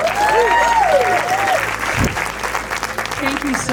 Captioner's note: applause